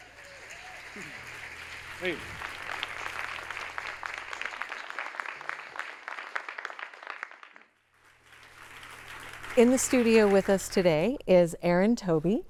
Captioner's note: applause